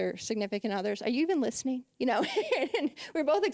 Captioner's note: laughing